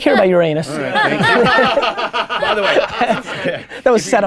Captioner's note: laughing